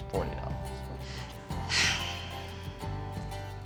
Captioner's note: sigh